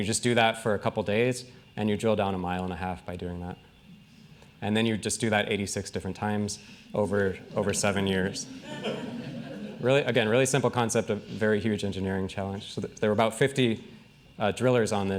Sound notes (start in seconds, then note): 7.0 laughing